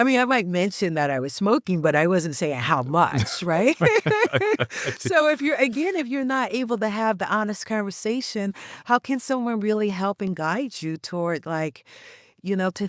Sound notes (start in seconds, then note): 3.1 laughs